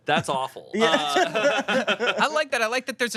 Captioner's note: everyone laughs